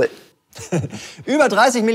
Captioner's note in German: Er lacht